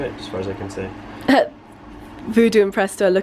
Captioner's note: giggles